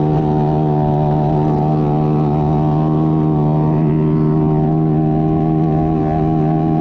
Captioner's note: motor running